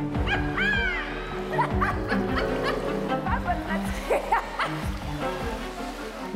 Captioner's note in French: rires